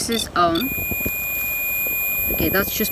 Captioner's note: beeping